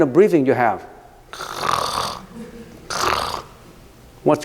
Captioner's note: snoring